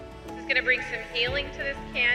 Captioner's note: woman On Microphone